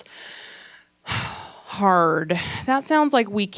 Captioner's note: exhales heavily